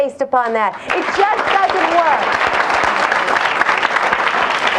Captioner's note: audience applauds